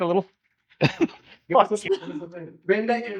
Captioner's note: laughing